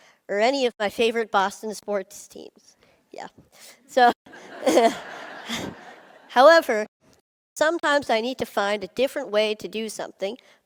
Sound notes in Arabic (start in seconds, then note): 4.3 ضحك